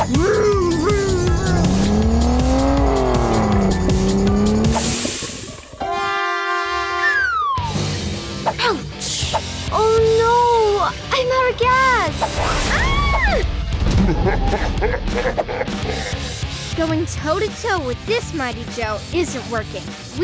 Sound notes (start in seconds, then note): 3.0 engine revving; 4.9 engine whooshes; 5.8 trumpets honks; 5.9 slide whistle blows; 9.0 rock music; 14.0 gorilla chuckles